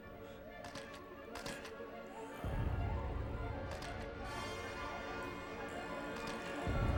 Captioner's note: building suspenseful music; camera clicking